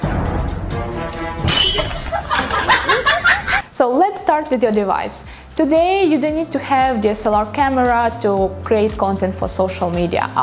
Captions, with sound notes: (laughing) So, let's start with your device. Today, you don't need to have DSLR camera to create content for social media.